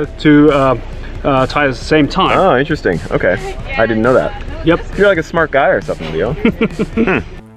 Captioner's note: laughs